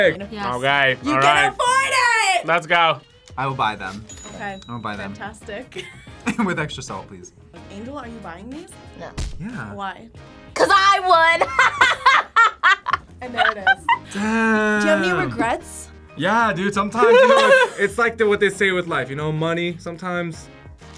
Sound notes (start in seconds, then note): 5.7 both laugh; 13.2 laughs